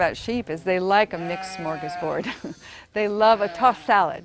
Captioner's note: chuckles